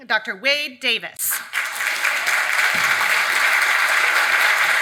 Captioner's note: audience applauds